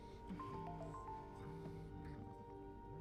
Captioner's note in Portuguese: suspiro